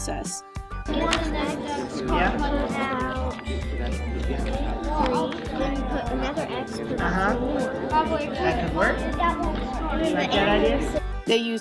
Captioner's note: crowd noise of multiple groups working at the same time